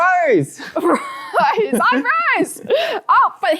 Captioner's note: laughs